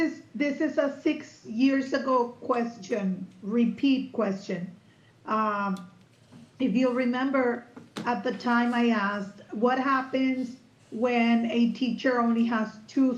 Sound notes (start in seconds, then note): none